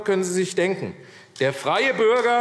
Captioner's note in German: Beifall AfD